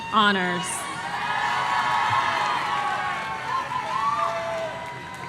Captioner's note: audience cheering